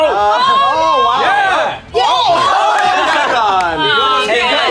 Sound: cheers

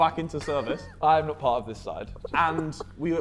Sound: Vikram laughing

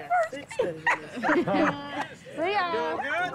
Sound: laughing

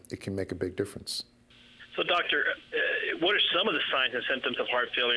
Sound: voiceover

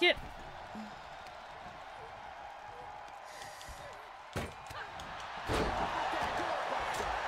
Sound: applause

